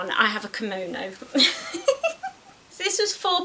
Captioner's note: laughs